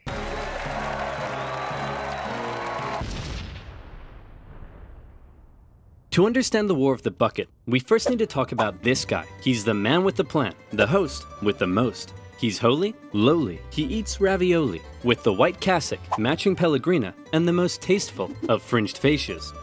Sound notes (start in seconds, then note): 0.0 joyful music; 0.0 crowd cheering; 3.0 loud boom